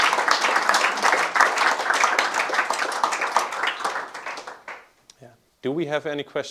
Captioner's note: applause